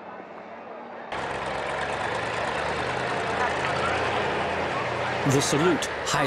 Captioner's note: car engine rumbling